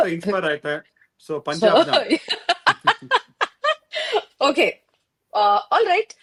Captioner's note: laughter